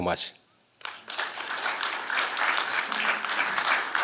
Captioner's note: applause